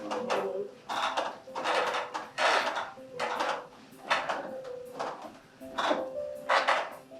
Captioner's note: stairs creak; gentle music